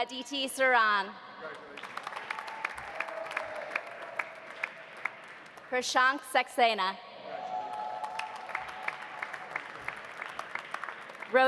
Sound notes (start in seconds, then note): 1.5 audience applauding; 1.9 audience cheering; 7.3 audience cheering; 7.6 audience applauding